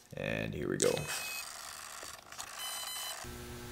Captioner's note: beeping